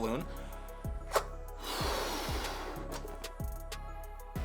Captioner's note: air blows